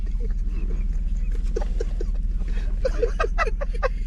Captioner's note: laughing